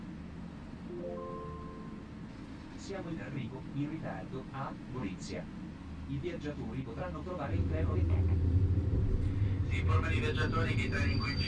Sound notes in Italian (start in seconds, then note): 0.9 trillo annunci, voce registrata; 8.4 capotreno, dagli altoparlanti